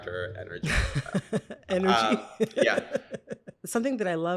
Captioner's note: laughter